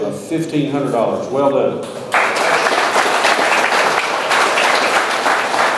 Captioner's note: audience applauds